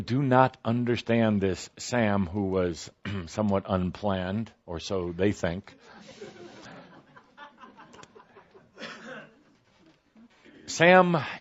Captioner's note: some laughter